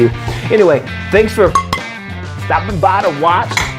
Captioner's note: soft clanging